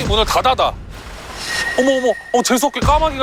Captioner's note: swoosh